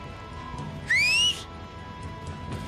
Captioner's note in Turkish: Islık çalıyor